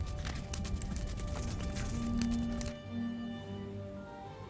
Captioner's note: fire crackling